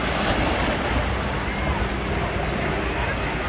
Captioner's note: ocean waves; ocean waves & public laughter